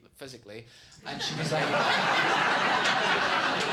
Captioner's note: audience laughs